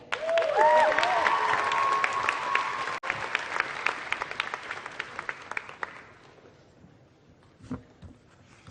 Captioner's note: applause